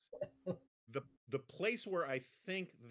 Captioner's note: Mara laughs